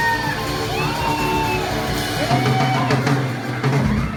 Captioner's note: audience cheers